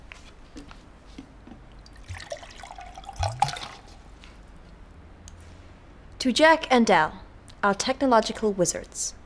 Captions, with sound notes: [Water pours into glass] To Jack and Dal - our technological wizards.